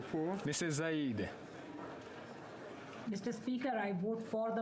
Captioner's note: speaking French